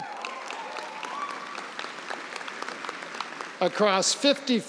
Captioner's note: applause